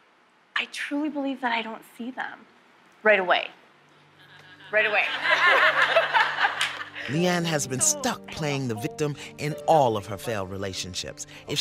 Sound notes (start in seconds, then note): 4.1 laughs; 4.2 laughter